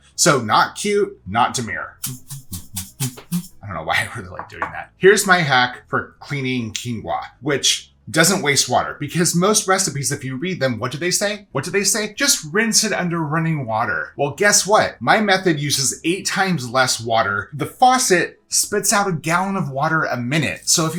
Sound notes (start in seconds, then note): 2.0 quinoa rattling